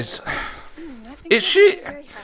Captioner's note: breathes